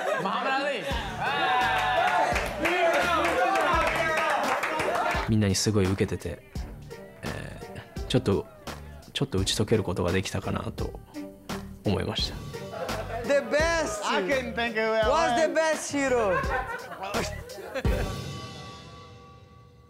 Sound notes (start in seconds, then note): 1.7 cheering; 5.2 non-english speech